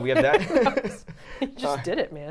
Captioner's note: all laughing